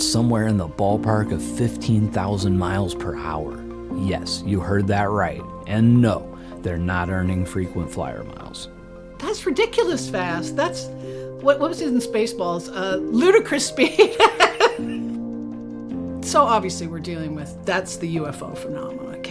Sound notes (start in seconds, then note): 13.9 laughs